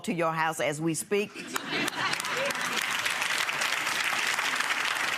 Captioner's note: laughing and clapping